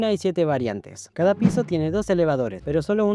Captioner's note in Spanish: efecto sonoro